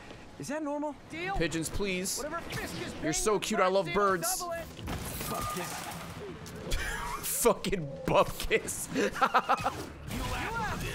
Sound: laughs

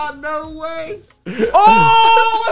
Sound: laughing

